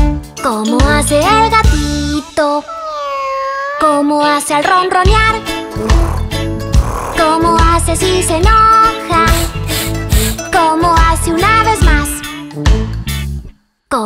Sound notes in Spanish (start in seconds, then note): 2.5 Maullido; 5.7 Ronroneo